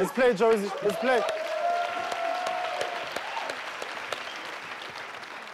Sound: audience cheering

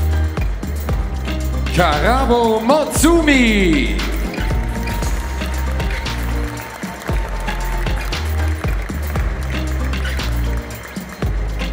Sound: applause

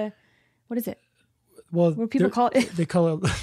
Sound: laughs

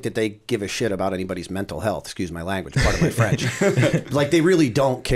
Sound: laughter

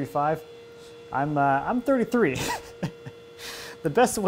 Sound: laughs

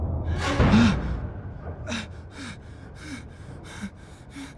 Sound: sharp gasp, panting

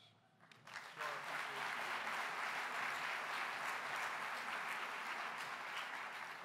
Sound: applause

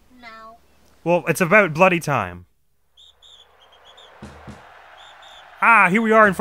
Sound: cheering and chanting

